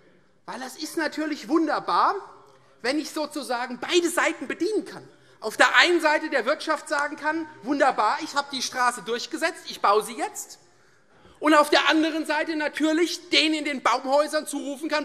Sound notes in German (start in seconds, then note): none